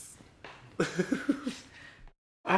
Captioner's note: chuckle